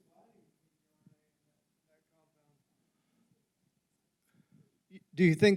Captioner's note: faintly speaking